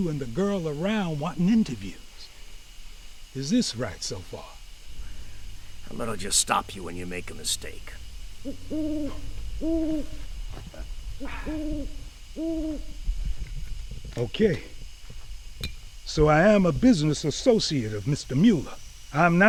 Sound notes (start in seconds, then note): 8.8 owl hooting; 11.2 Weeks sighs